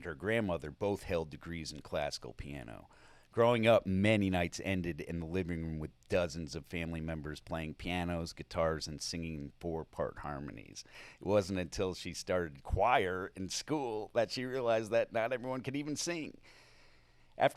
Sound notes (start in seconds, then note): none